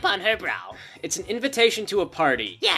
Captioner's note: sigh